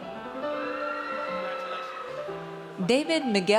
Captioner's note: audience cheers